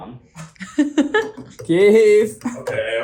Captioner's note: laughter